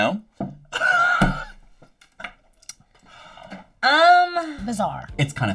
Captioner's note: laughing